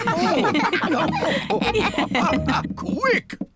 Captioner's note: all laugh